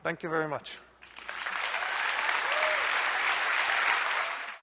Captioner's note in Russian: Аплодисменты, овации